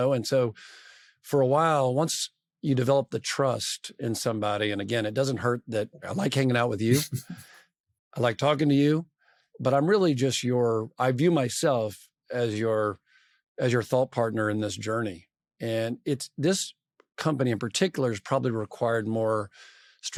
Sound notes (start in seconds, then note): 6.9 laughs